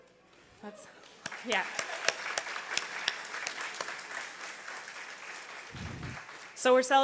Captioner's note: audience applause